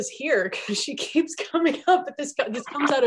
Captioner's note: laughing